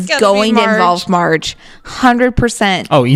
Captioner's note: laughing